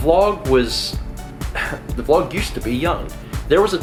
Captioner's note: chuckle